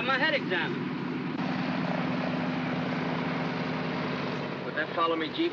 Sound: aircraft rumbling

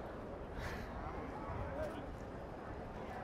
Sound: people speaking in the background; breathes in; breathes out; people speaking in the background

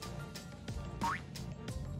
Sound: boing

